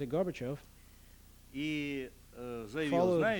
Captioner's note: non-english speech